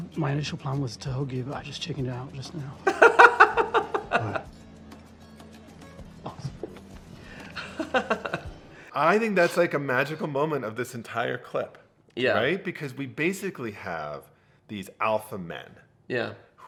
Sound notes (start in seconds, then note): 2.8 laughing